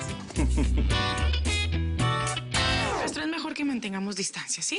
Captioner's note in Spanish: Risas